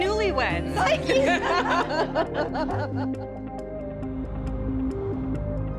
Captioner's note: laughs; dramatic music